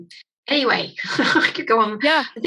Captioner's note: chuckles